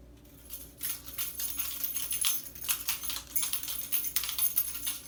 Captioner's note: metal jangling